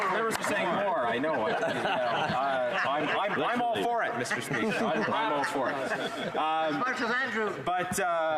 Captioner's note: applause